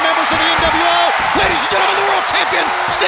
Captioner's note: audience cheers